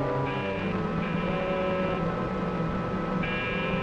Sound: buzzing

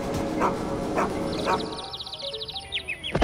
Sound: birds chirp

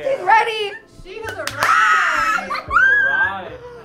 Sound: Sydney squealing

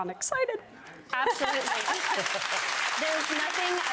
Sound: audience applauding

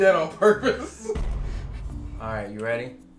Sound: chuckles; suspenseful bangs

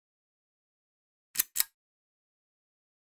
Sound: click

